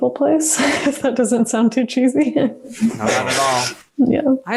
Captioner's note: laughs